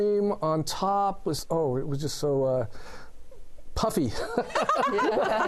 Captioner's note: laughter